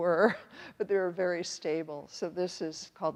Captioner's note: chuckles